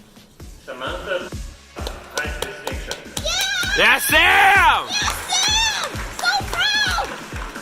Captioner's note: cheering